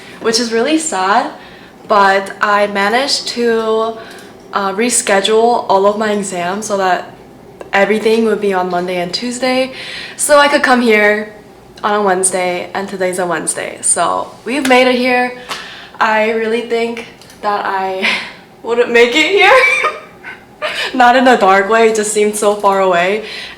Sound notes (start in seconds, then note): 19.4 laughs